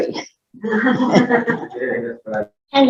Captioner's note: laughter